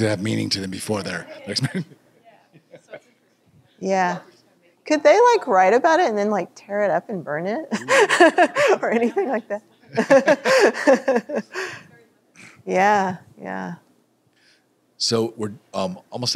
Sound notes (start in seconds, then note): 2.4 laughs; 9.9 laughter